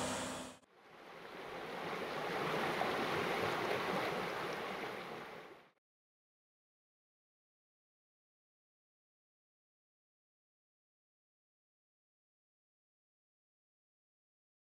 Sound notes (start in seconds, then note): 1.0 flowing water bubbling